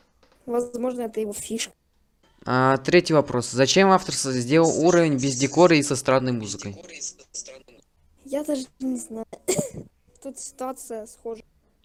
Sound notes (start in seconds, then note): 9.3 cough